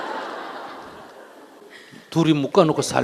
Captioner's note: audience Laughter